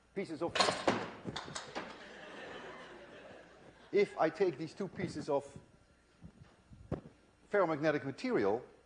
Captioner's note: again loud noises, laughter